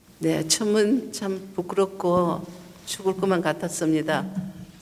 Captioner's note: speaking foreign language